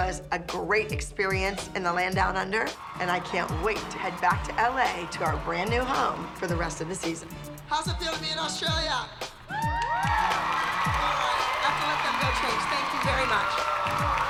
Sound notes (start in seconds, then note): 9.4 girls whoop; 14.1 crowd cheering